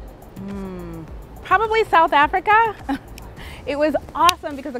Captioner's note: laughs